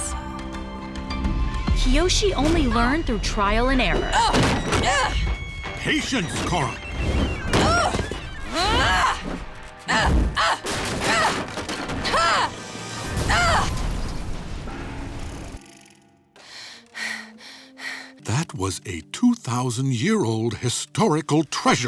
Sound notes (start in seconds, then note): 3.9 groaning; 7.1 groaning, grunting; 16.0 panting